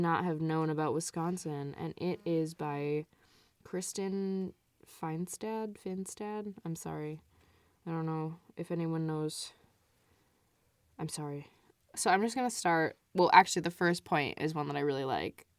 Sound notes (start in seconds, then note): none